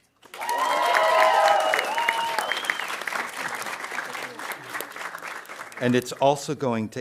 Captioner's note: audience cheering and applauding